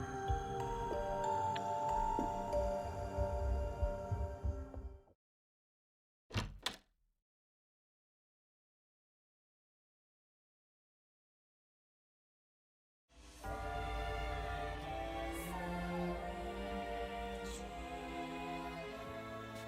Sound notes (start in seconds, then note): 6.6 click